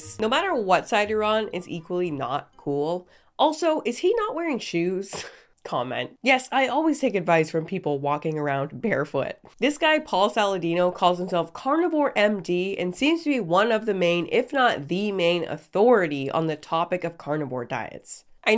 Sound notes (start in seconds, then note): none